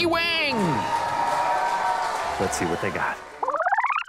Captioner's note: applause